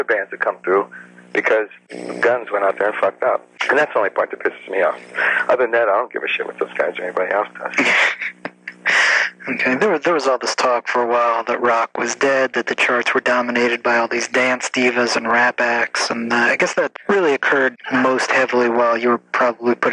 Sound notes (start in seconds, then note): 7.4 chuckles